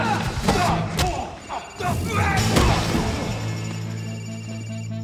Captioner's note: cellphone ringing